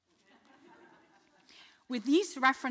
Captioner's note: audience laughing